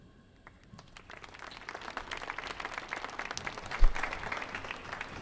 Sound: audience applauding

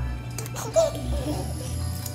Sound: giggling

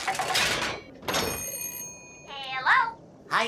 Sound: bell ringing

